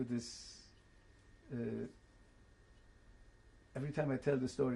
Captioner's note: pauses for 3 seconds